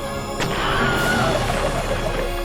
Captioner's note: man screaming; spaceship whooshing